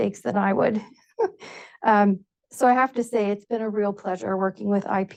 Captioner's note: chuckles